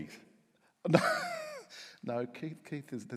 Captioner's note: laughs